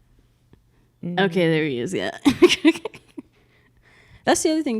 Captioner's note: laughs